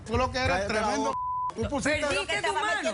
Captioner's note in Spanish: Bip